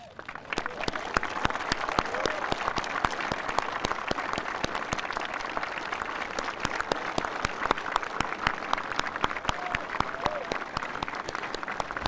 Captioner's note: applause